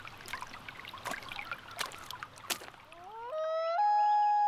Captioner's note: footsteps crunching; loon calling